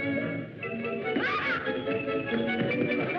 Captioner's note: yell; laughter